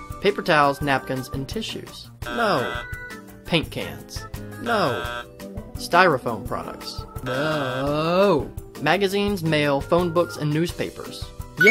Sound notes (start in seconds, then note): 2.6 buzzes; 4.9 buzzes; 7.6 buzzes